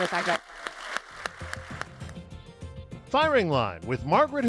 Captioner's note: audience applauds